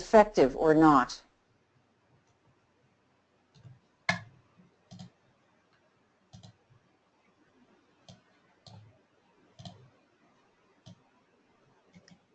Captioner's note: silence